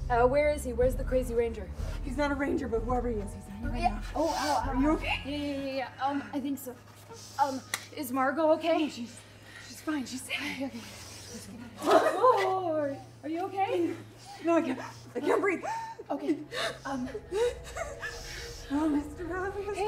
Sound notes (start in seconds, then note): 17.8 Nova gasping